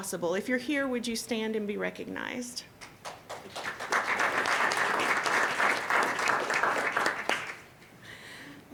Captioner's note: applause